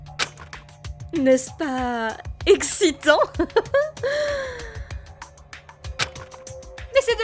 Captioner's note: laugh